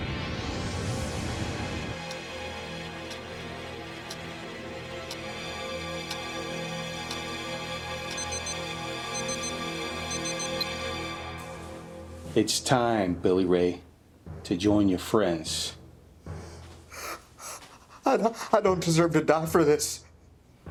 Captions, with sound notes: (ominous music continues) (clock ticks rhythmically) (alarm bleeps) It is time, Billy Ray, to join your friends. (Billy gasps) - I don't, I don't deserve to die for this.